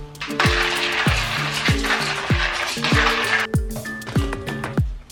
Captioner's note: coffee grinder grinding